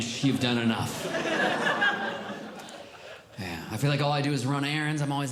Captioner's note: audience Laughing